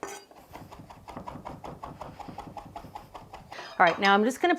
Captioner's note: knife whooshing